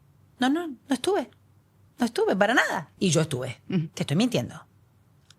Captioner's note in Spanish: carraspeo